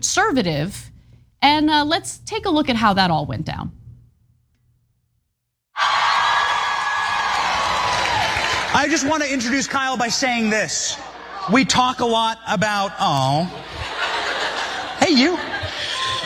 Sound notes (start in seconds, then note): 5.8 applause